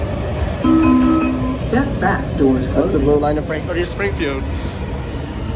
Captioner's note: chime